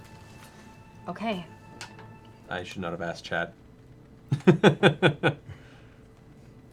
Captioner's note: laughs